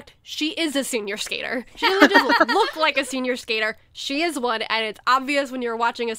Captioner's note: hosts laugh